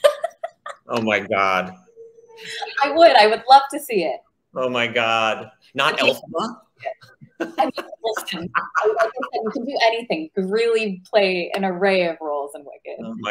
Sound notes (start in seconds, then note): 0.0 laughs; 6.8 laughs